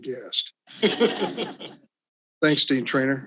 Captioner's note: all laughs